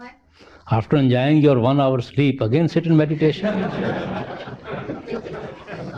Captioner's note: laughter